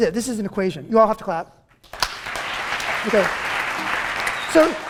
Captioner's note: applause